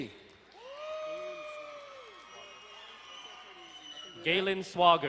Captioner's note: crowd cheering and applauding